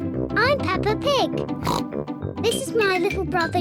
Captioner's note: oinks